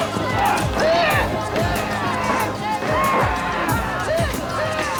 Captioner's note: crowd yelling; man screaming